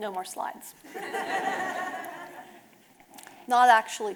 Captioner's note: audience laughing